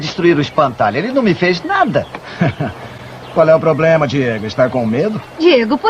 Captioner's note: laughs